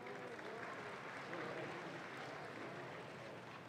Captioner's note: audience claps